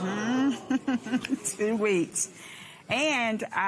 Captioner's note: laughs